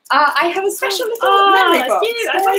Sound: none

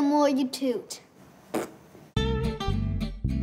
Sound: toots with mouth

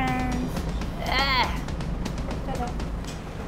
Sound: groans

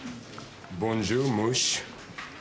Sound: speaks French

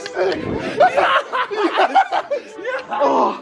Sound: laughing

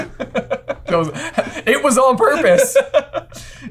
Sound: laughing; laughs

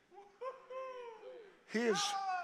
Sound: congregation cheering

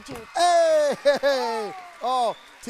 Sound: audience applauds

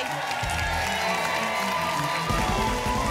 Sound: applause and cheering cont

